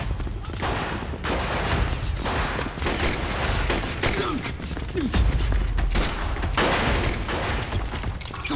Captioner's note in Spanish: Disparos